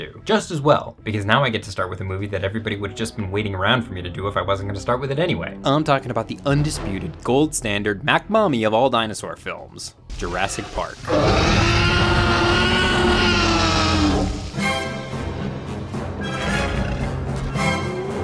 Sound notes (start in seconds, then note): 11.0 T. rex roars; 14.7 dramatic orchestral music